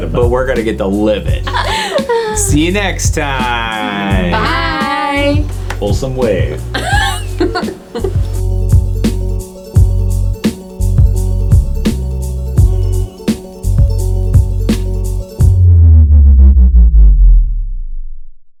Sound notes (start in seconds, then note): 6.3 chuckles; 9.0 upbeat techno music